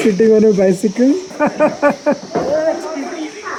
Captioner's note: laughing out laud